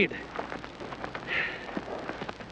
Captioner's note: sighs